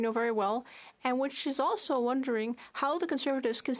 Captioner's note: speaking French